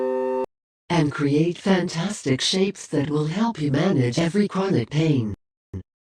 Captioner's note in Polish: w tle miarowa narracja zmodulowanym kobiecym głosem